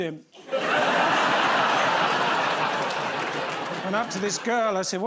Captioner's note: laughter